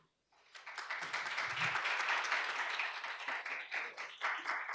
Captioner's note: audience applauds